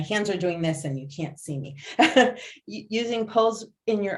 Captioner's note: laughs